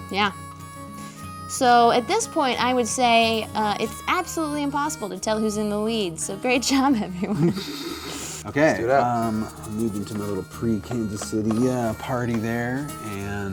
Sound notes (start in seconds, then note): 6.7 laughs